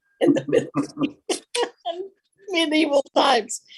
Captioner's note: laughing